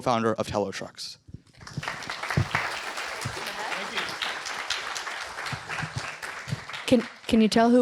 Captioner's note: applause